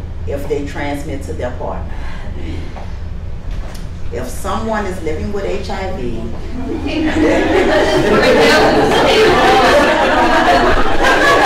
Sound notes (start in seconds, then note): 6.6 laughter